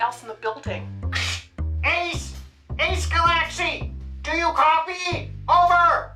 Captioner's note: over walkie talkie